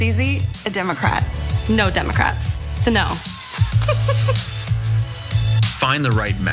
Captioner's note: laugh